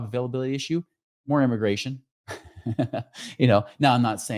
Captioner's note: chuckles